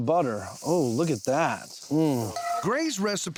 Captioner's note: sizzling sounds